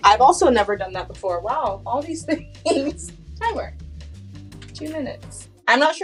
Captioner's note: laughs